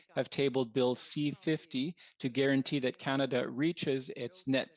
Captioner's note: speaking French